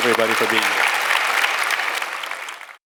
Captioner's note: audience applauds